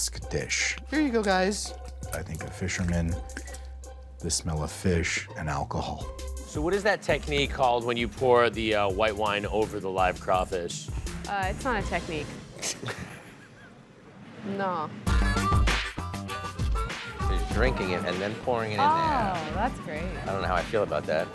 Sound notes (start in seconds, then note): 12.6 laughs; 15.1 upbeat music